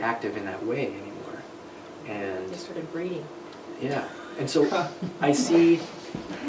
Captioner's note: laughter